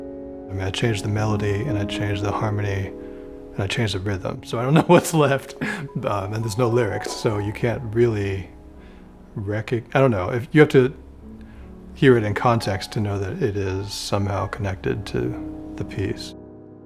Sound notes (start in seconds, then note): 4.6 chuckles